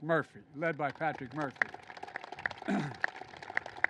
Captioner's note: applause